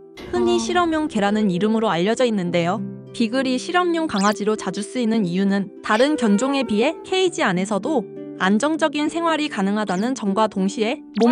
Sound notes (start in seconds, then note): 5.8 whimpering…